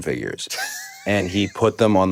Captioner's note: Finn laughs